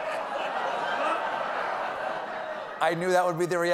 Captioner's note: laughter